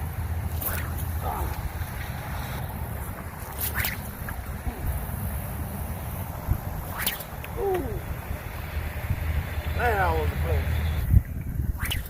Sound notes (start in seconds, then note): 0.5 sling whips; 0.5 splash; 3.4 sling whips; 5.1 splash; 6.8 sling whips; 11.7 sling whips